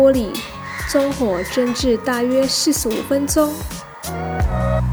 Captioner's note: fire